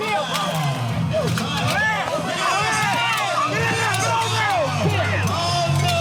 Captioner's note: bells clank